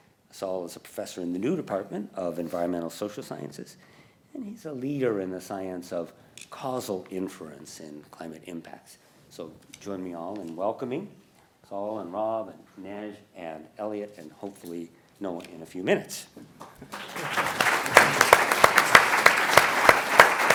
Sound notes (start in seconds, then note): 16.6 applause